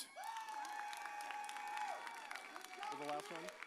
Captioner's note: audience cheers